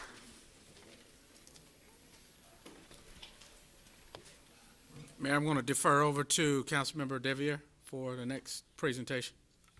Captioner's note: applause